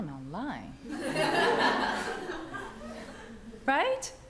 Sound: audience laughs

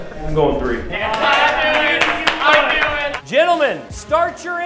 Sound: cheering

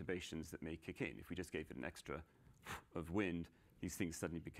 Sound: exhales

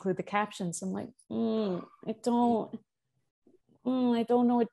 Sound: mmmmm

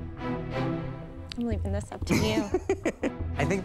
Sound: laughs

